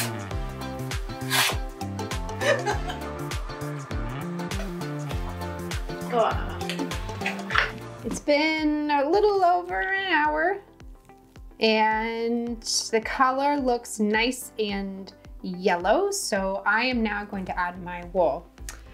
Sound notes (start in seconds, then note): 2.4 laughs